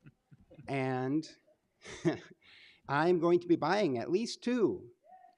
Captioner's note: chuckles